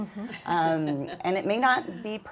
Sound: women chuckling

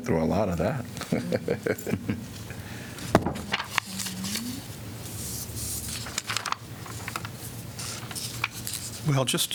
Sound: laughter

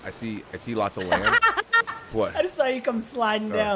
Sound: laugh

